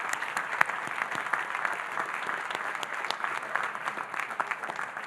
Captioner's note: audience applauding